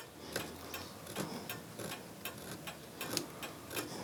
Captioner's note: scratching